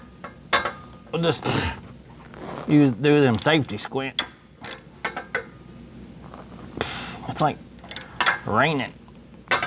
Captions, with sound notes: We'll just, pfft, do them safety squints. (Metal Clanking) It's like raining.